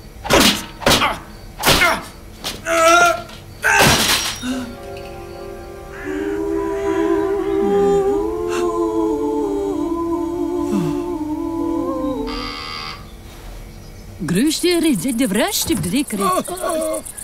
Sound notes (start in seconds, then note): 0.2 man grunting; 0.2 tool thudding; 3.7 ironing board crashes; 6.2 gentle music; 6.2 women singing; 12.2 door buzzes; 14.2 woman and man speaking in foreign language